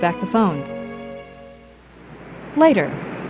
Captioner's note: faint passing vehicles